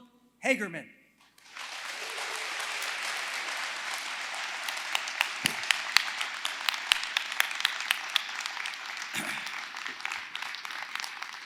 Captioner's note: applause